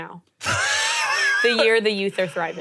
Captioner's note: laughing